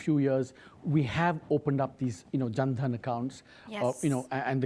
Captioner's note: speaks foreign language